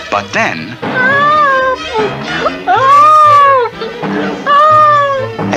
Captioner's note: bouncing!